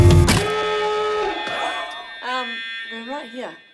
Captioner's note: police siren blaring